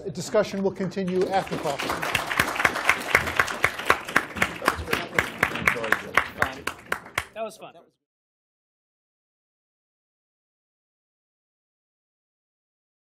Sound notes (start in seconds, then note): 2.1 applause